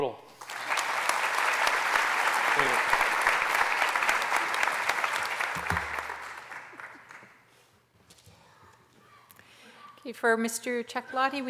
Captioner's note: applause